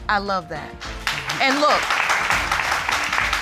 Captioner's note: applause